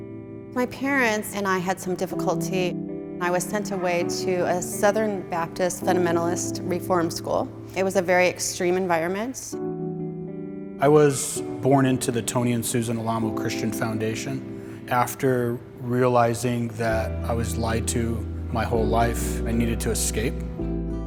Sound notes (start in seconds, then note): 10.6 voice-over